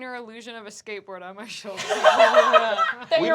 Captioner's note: laughing